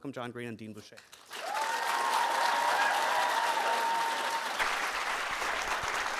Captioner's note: audience applauding